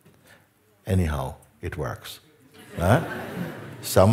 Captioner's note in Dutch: gelach